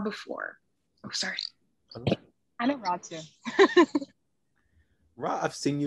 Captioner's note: chuckles